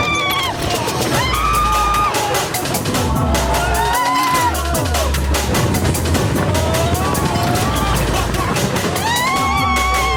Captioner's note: oh lawd the screamin; still screaming